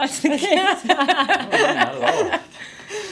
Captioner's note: both laughing